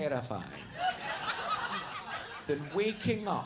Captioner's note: audience laughing